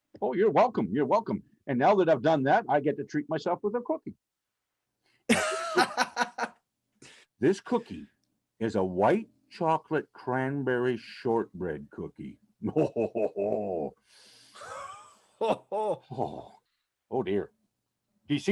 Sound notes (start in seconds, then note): 5.3 laughing